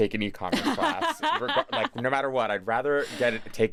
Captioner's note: laughs